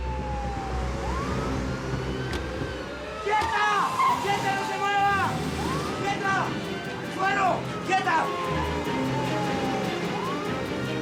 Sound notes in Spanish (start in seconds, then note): 0.7 ruido al abrir